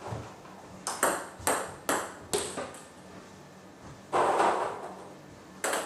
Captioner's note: balls ping pong hitting continues